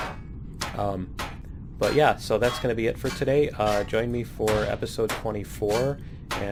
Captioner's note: pinging